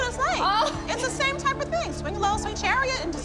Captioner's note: laughter